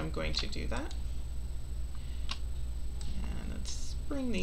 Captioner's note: mouse clicking